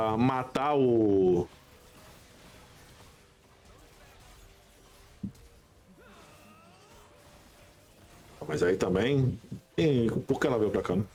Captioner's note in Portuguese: gemido; grito